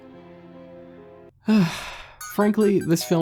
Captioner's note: sigh